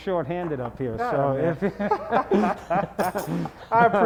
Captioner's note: laughing